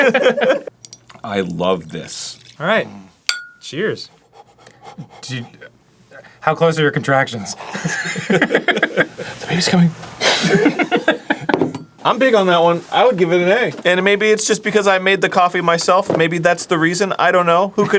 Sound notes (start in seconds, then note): 2.8 moans softly bc he loves this; 3.3 clink; 4.1 panting into his mug; 7.5 laughing